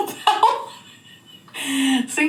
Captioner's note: laughing